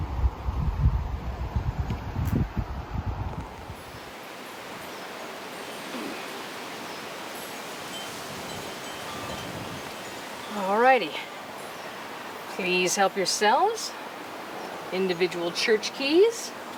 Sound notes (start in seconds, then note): 0.0 wind whooshing; 7.9 bell chimes; 8.3 wind whooshing